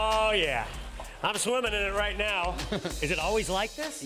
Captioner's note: laughs